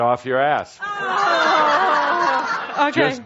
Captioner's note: laughter